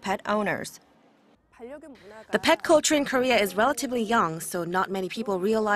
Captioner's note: Korean